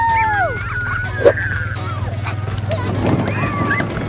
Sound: child shrieking

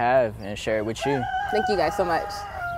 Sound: rooster crowing

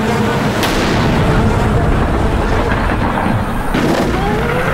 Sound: air whooshing; sonic boom blasting; air whooshing

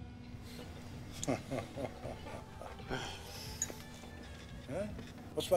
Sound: laughs

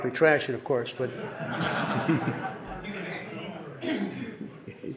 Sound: audience laughing

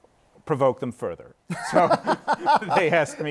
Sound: laughs

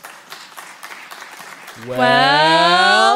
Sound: clapping

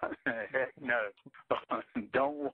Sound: both laugh

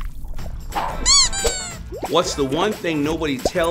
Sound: squeak

